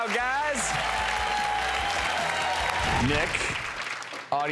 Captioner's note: cheers and applause